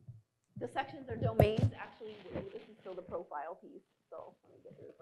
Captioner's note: voice distorted